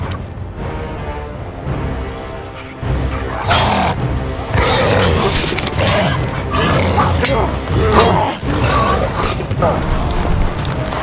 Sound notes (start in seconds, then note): 3.1 orc growling; 4.8 swords clanging